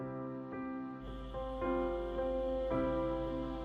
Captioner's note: crickets chirping